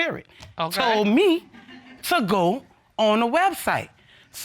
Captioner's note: audience chuckling